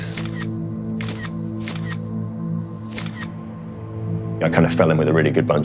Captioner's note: camera shutter repeats - schuck - schuck - schuck